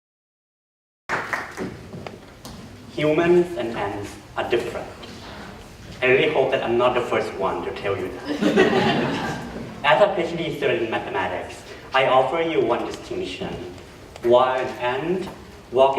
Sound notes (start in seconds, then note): 1.1 applause; 8.2 laughter